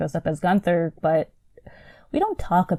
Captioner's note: sighs